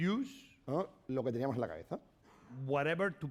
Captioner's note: speaking spanish